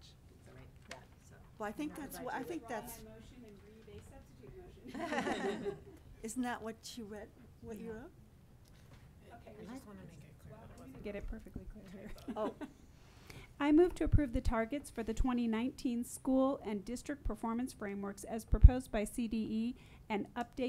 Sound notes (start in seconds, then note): 2.7 woman speaking away from microphone; 4.8 women laughing